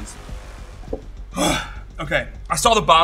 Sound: sighs

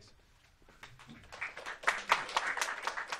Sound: students clapping

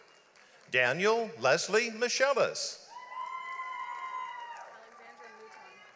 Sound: audience applauds

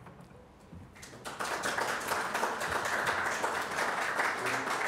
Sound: audience applauds

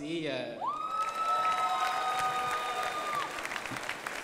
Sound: crowd applauding

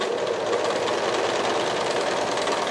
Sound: sewing machine chattering

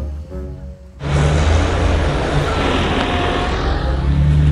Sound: engine roars

